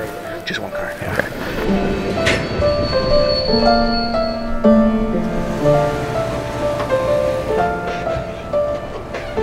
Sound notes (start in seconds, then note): 1.0 train wheels creaking; 5.8 soft music